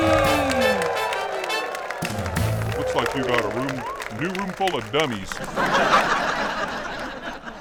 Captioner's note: audience laughs